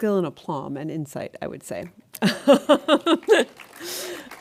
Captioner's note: laughs